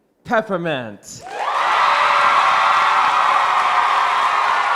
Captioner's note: crowd cheering